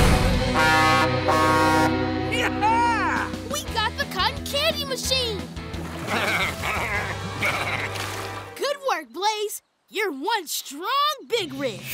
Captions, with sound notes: [truck horn honking] Yeah! We got the cotton candy machine! [grunting] Good work Blaze, you're one strong big rig!